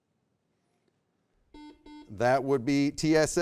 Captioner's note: buzzer beeps